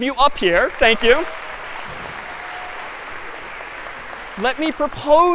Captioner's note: applause